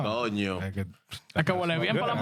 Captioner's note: speaking In Spanish